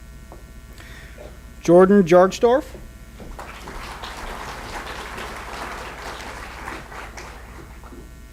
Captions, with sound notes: Jordan Jargestorf. (applause)